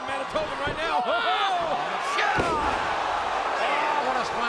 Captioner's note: Jericho thudding